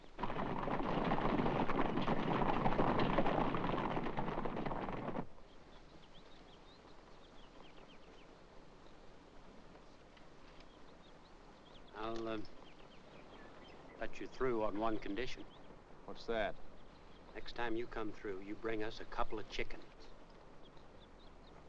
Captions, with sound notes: (hooves pounding) (birds singing) I'll, uh... let you through on one condition... - What's that? - Next time you come through, you bring us a couple of chickens.